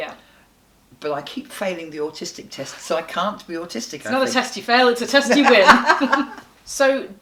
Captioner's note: they laugh